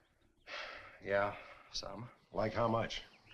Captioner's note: sighs